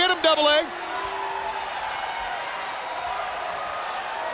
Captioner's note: crowd cheering